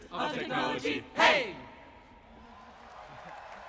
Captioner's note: applause